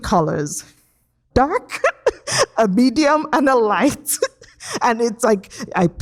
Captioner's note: chuckles